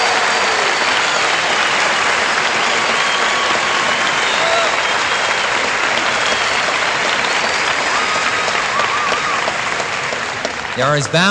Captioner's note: applause